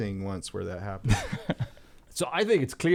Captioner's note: laughter